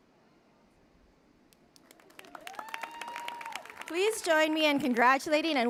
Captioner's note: applause